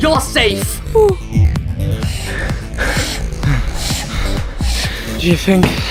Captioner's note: Gaty sighs in relief; heavy, exhausted breaths; out of breath